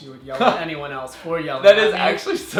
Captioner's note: laughs